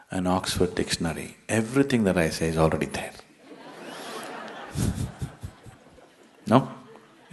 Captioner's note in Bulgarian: Смях